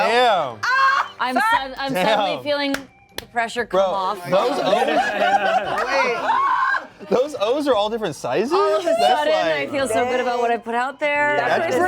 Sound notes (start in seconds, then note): 1.3 laughs; 4.8 cast laughs